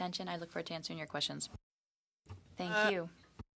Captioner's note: speaking French